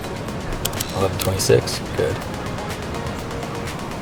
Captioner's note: typing